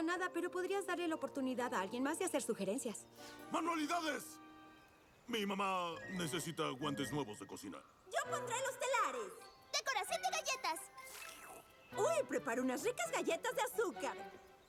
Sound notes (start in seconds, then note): 10.9 slurp